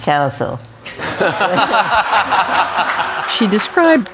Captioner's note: audience laughs